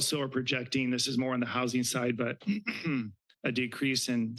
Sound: clears throat

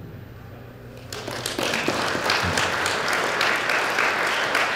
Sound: audience applauding

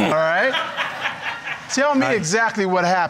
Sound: crowd laughing

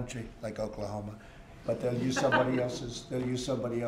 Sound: laughter

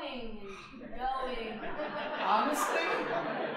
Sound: audience laughing

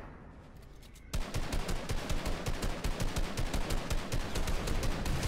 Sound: guns firing

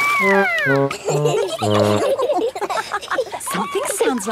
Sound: all laughing

